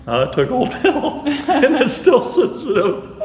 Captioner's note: laughing